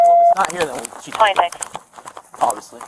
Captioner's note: radio chatter